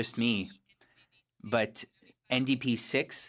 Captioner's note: speaking FRENCH